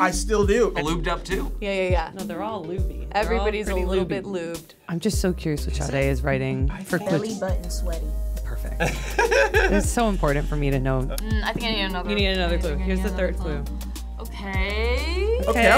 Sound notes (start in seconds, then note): 8.7 laughing